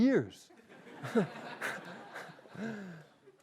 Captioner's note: laughter